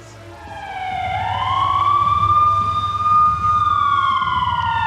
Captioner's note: siren blaring